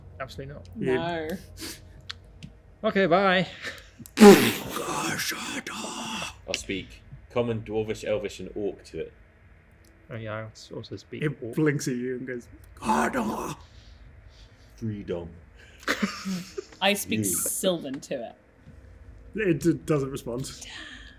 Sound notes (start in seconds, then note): 4.8 Troll, speaking Giant; 12.9 Troll, speaking Giant